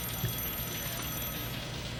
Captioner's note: phone rings